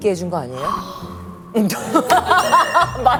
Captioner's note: gasp...!